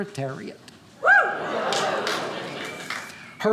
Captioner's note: audience cheering